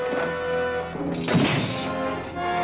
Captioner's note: door slamming